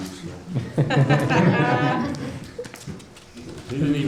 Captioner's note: laughing